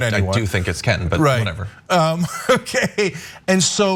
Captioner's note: laugh